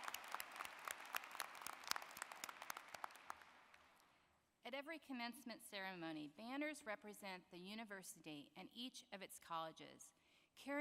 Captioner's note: applause